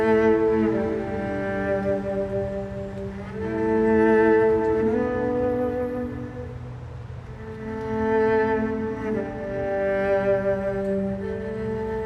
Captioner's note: distant traffic noise